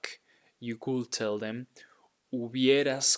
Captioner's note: speaking in Spanish